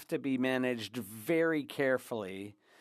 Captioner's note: speaking French